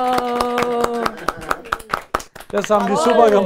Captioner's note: Klatschen